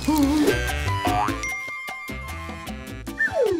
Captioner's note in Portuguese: barulho de mensagem